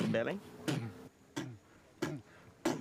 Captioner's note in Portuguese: fazendo beatbox